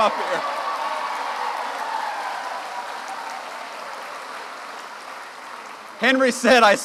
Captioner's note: cheers and applause